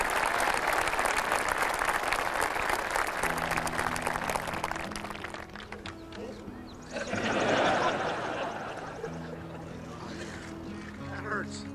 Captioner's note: cheers and applause